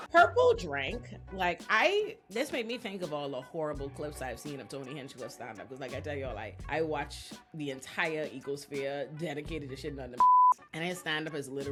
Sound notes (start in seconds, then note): 10.2 beep